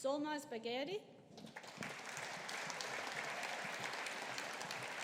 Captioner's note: audience applauding